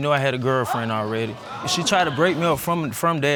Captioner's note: audience gasping